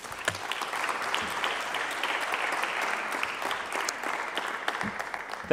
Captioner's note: clapping